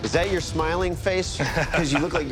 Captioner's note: laughs